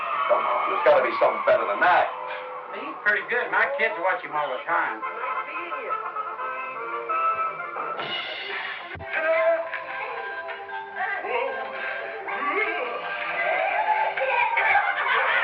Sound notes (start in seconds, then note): 9.0 clown doing silly voice; 13.6 kids laughing